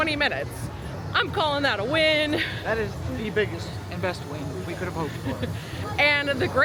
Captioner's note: giggles